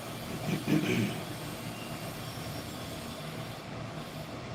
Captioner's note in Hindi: गला साफ़ करने की आवाज़